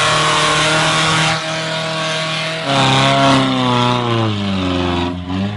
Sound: engine roaring

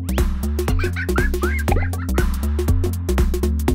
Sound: laughter

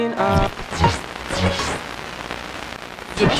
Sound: radio buzzing

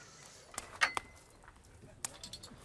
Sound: fire crackles

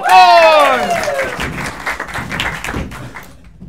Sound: applause

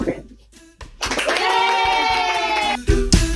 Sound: people cheering; bright upbeat music

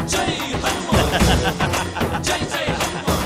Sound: laughs

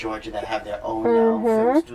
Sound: sounds of agreement

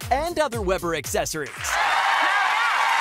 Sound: audience applauding

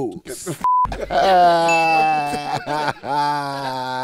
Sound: laughing

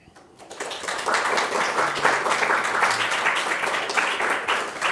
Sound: audience applauding

